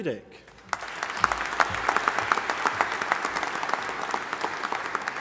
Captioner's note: audience applauding